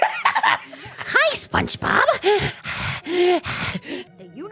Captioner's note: growly, creepy imitation of Timmy’s voice; heavy breathing